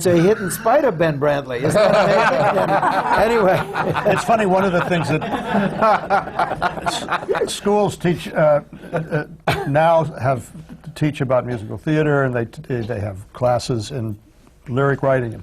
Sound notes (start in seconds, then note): 4.9 laughter